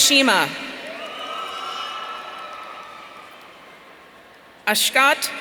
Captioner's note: audience cheering